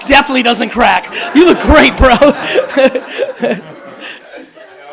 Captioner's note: laughs